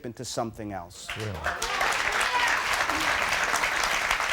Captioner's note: audience cheers